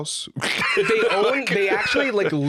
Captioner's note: laughs